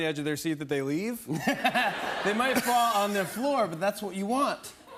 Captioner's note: laughter